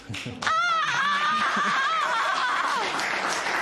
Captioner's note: applause